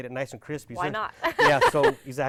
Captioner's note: laughs